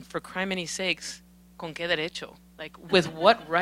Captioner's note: speaking Spanish